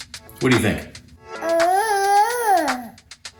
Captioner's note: cute baby babble